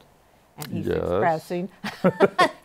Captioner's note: both laugh